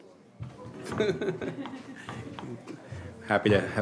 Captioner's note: laughter